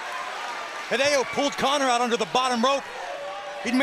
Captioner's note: crowd cheering